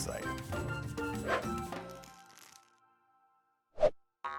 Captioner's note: wind whooshing